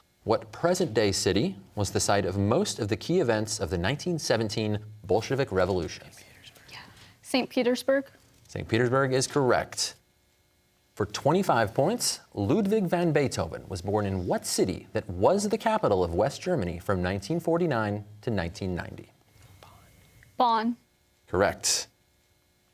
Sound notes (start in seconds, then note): 6.2 whispering; 19.1 whispering